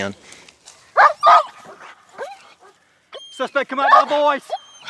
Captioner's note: dog barking